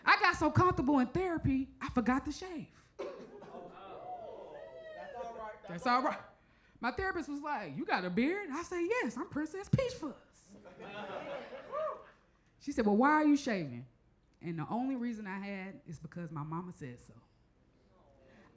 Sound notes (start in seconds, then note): 3.0 crowd chuckles; 3.4 crowd murmurs; 10.7 crowd member chuckles